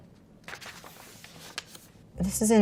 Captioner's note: page rustles